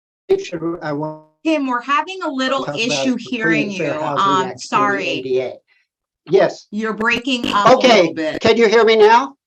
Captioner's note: connection issues